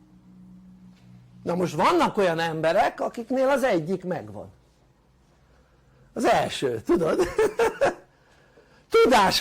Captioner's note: laughter